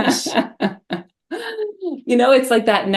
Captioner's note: laughter